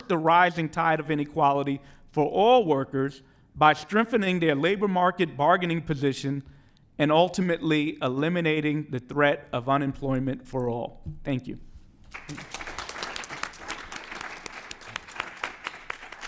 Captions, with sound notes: the rising tide of inequality for all workers by strengthening their labor market bargaining position and ultimately eliminating the threat of unemployment for all. Thank you. [APPLAUSE]